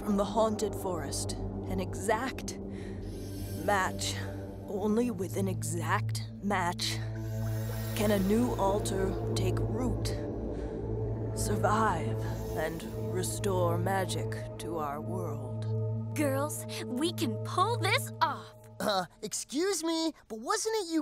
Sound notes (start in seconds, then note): none